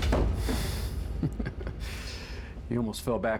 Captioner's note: Dean laughs